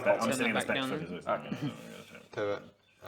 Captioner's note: mumbles